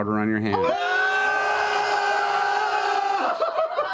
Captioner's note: shouting